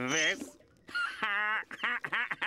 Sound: laughing

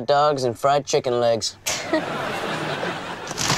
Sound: chuckles

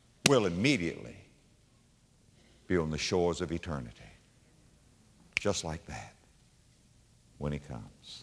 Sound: slap; snap

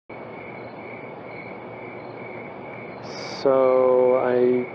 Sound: crickets chirping

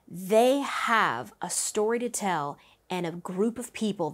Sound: none

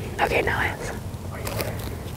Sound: whispering

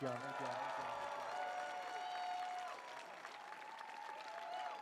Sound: audience cheering

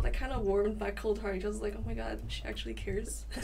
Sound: laughs

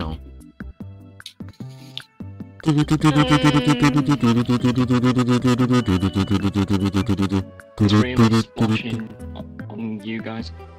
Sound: intense concentrated humming

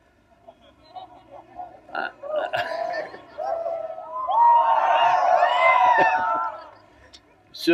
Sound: laughter/Cheering

